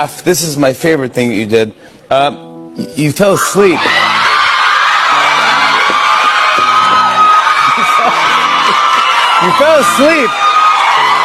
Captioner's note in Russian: крик; ликование